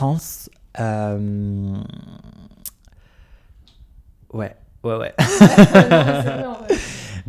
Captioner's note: laughs